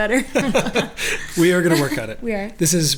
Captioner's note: laughs